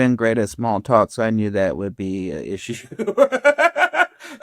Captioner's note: laughs